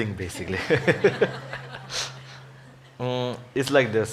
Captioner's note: audience laughing; laughs